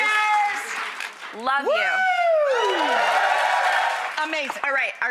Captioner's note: audience cheers